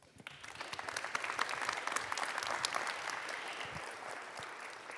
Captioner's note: audience applauds